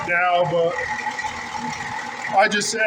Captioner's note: engine idling